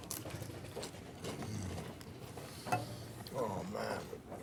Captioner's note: chip crunching; Vargas moans; grunts